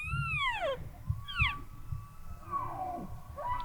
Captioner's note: bull bugling